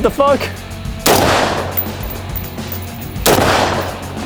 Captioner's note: gun bangs